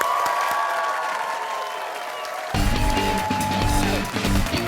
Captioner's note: cheers and applause